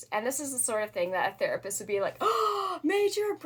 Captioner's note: gasp